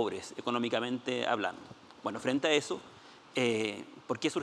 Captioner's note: speaking Spanish